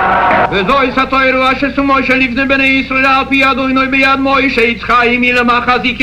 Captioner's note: crowd chanting and cheering; man speaking in foreign language